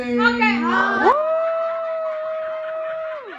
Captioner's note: all cheering